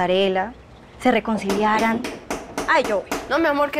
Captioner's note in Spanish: Llaman a la puerta